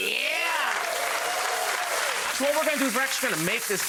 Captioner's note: audience applause